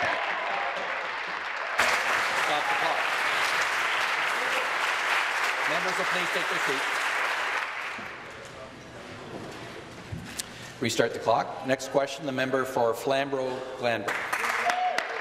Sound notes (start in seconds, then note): 3.0 applause